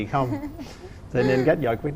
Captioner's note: the wife giggles